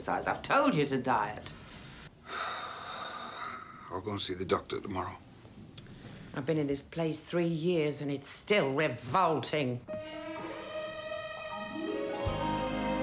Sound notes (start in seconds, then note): 2.1 Harry sighs; 9.8 soft music